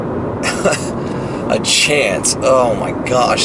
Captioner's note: laughs